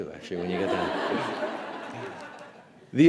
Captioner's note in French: Rires